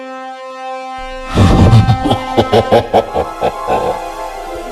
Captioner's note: laughs Menacingly